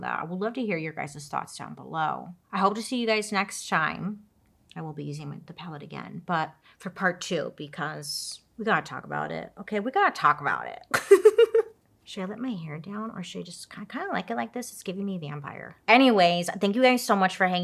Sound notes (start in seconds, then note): 10.9 laughs